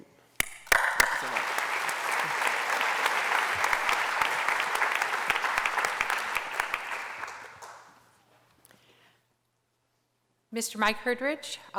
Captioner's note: applause